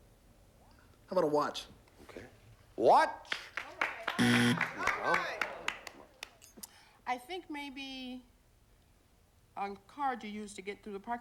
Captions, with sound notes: HOW 'BOUT A WATCH? WATCH! [BUZZER] NO. I THINK, MAYBE... A CARD YOU USE TO GET THROUGH THE PARKING LOT.